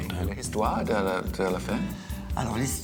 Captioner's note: both speak french